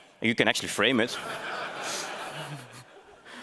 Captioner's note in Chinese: 观众大笑